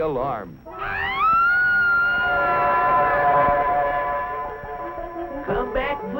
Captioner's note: woman screaming